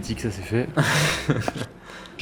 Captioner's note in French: Rires